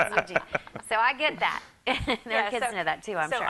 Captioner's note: laughs